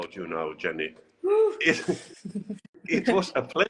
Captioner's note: shouts hushedly